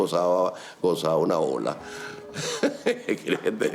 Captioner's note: laughs